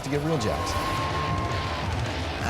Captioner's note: cheering